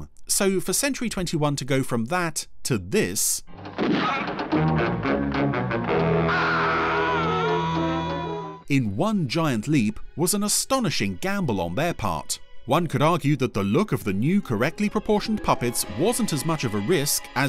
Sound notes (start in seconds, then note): 3.5 dramatic music; 6.2 screaming